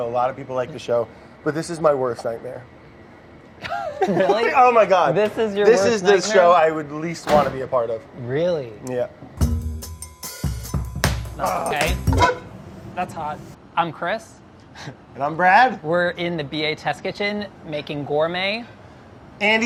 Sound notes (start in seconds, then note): 3.6 chuckling; 9.4 upbeat music